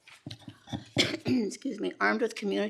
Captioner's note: coughs gently